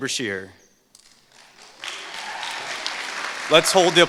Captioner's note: applause